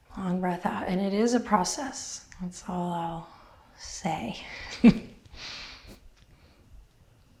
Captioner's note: chuckles